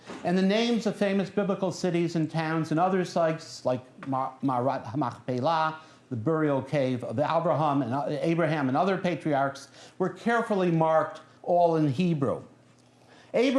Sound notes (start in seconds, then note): 4.1 non-english speech